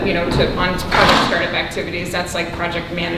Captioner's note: rustling drowns out speaker